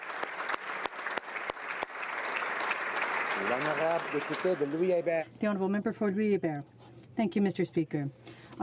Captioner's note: applause